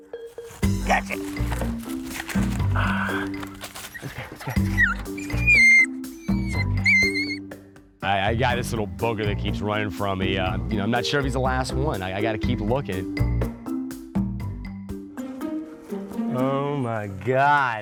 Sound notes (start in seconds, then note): 0.2 upbeat music; 5.3 puppy crying; 14.8 upbeat music